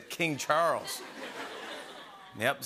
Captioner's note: laughter